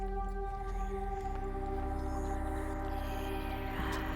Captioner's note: creepy whispering